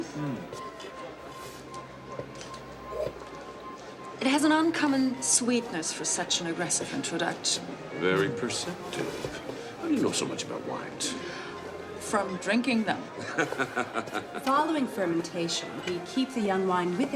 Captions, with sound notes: it has an uncommon sweetness for such an aggressive introduction. - Very perceptive, how do you know so much about wines? - From drinking them. (laughing) - Following fermentation we keep the young wine